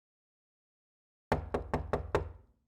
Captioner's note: door knocks